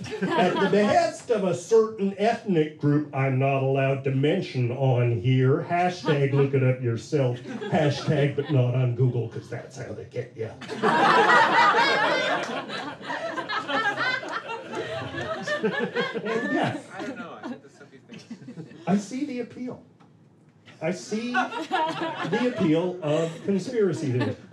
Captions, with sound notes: at the behest of a certain ethnic group I'm not allowed to mention on here, hashtag look it up for yourself, hashtag but not on Google because that's how they get you.” (laughter) And yet, I see the appeal. I see the appeal of conspiracy theories.